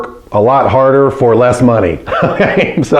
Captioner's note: laughs